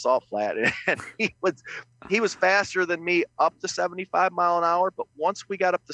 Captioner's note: laughs